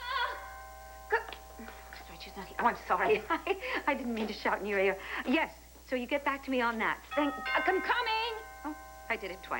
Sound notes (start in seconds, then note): 1.9 doorbell rings